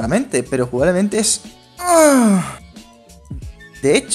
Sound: orgasm

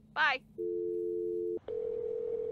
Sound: dial tone; phone rings

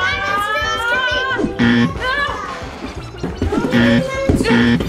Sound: buzzer sound

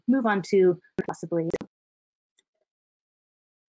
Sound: audio out for several seconds

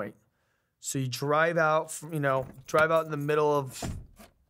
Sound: keys jingling; car door closing

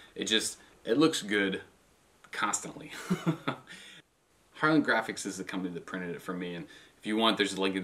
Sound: ha ha

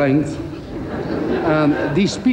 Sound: crowd laughs

